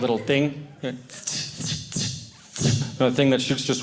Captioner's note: air conditioning sound